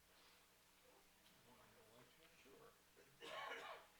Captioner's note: chatter